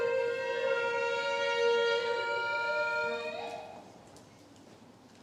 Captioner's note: a whooping vocal call